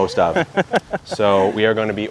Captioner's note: laughing